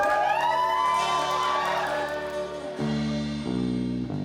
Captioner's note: cheering